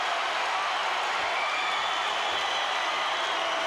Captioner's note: crowd cheering